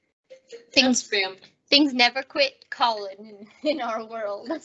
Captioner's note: phone rings